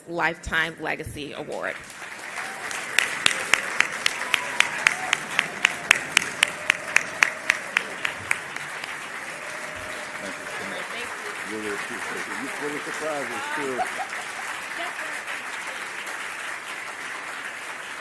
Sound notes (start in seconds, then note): 6.3 applause